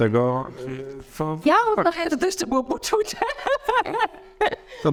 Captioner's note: laughs